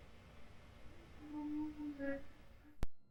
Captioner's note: wailing